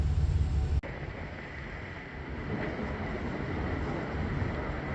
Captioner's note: wind gusting